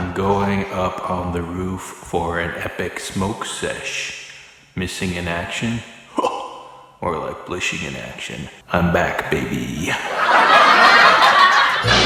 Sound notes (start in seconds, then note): 6.0 scoffs; 9.8 background laughter